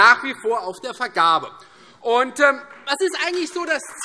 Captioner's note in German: Beifall Freie Demokraten